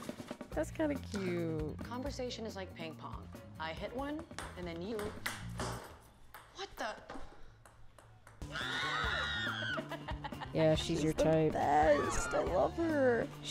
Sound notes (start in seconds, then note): 8.6 Audience screaming at horror movie while Aster laughs